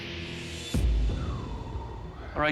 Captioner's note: nervous exhale